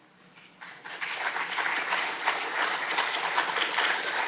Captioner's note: crowd clapping